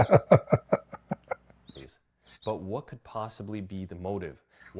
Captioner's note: Ketawa